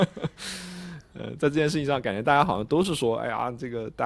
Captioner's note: laughter